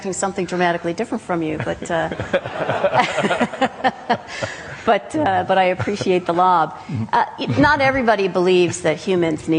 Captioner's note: laughter